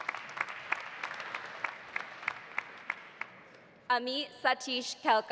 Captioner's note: audience applauding